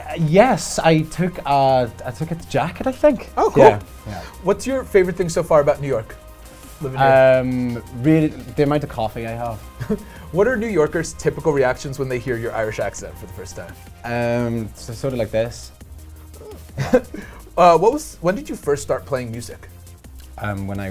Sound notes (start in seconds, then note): 9.9 chuckles; 16.4 chuckles